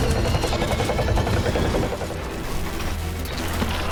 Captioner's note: electronic buzzing